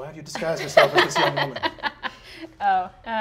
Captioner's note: all laugh